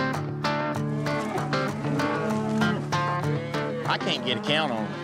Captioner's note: mooing